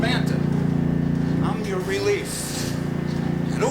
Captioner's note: none